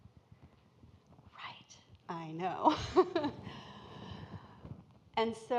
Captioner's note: laughs